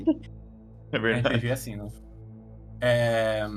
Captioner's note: laughter